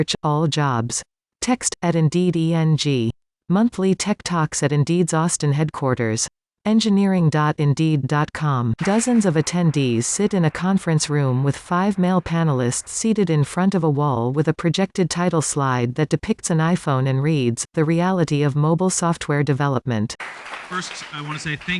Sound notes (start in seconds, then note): 8.8 applause